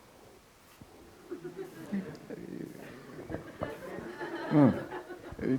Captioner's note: light audience laughter